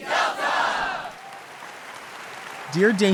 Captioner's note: audience applauds